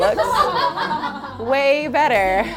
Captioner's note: group laughs